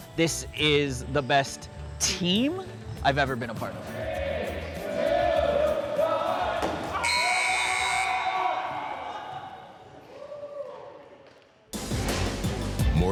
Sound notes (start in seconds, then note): 7.0 buzzer; 7.6 shouting